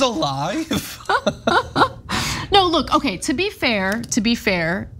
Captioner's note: laugh